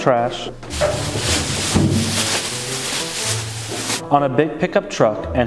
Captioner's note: plastic rustling